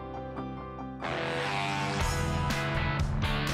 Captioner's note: engine roaring; rock music